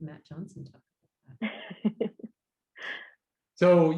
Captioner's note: laughing